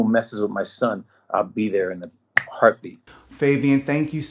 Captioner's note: snaps